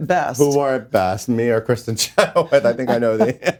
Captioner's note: laughs